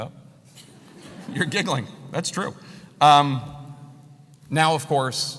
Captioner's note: laugh